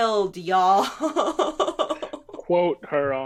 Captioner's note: giggling